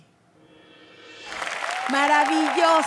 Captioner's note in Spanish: Aplausos